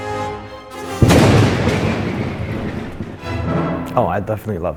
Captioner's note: lightning striking